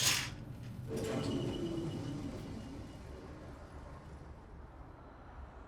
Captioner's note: heating vent turns off